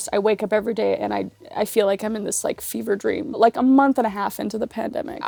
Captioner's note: none